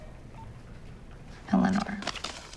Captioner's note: phone beeps